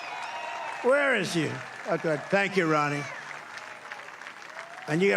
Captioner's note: applause